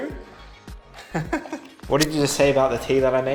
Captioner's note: more laughing